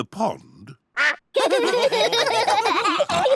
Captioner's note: all laugh